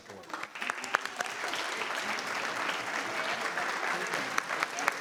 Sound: board and audience applauding

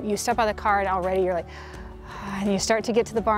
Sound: exhales

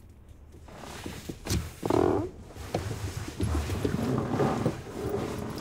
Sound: pants brushing against seat

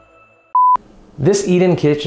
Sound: beep

